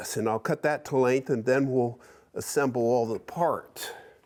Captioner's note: none